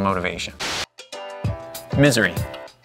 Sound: static hisses; upbeat hip hop music

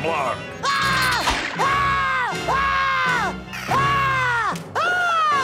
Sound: screaming

